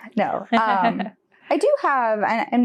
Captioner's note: chuckles